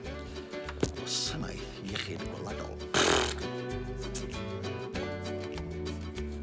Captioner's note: bright, upbeat music; blows a raspberry